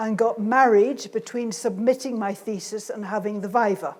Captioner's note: none